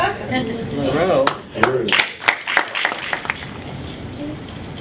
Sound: applause

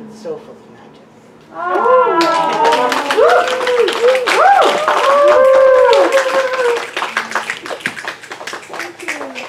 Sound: audience awws, snaps and applause

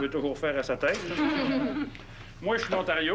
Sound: Rires

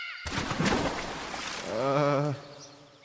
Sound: splash

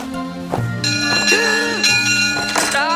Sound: bell rings; footman gasps

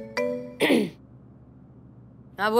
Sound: clears throat

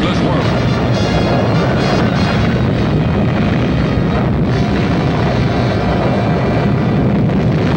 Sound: dramatic music; bombs blasting

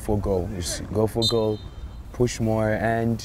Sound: whistle blows

